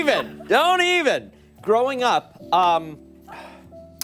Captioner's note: laughter